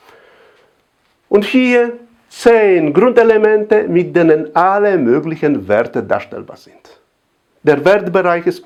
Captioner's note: with Arabic